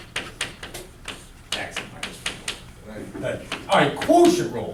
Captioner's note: chalk clicking on board